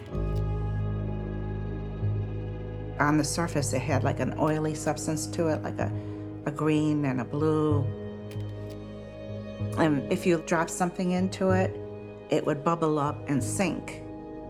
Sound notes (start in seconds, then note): 0.1 camera shutter clicks; 8.3 shutter clicks